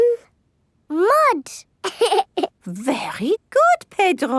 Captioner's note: laughs